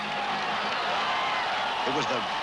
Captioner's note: crowd cheering